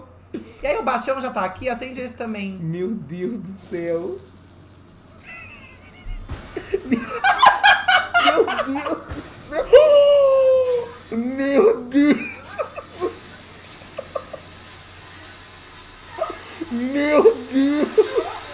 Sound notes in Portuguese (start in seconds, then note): 5.2 gargalhada; 6.0 explosão